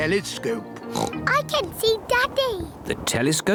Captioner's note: oinks